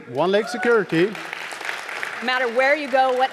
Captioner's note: audience applauding